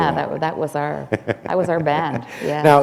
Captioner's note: chuckle